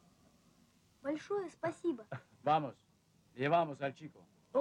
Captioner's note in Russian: индеец говорит по-испански